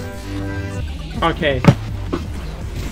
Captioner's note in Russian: глухой удар